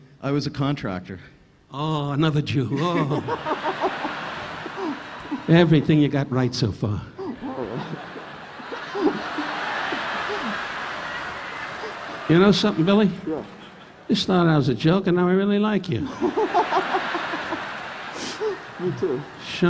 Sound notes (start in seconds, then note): 2.7 laughing; 2.7 audience laughing; 7.2 laughing; 7.2 audience laughing; 16.0 audience laughing; 16.2 laughing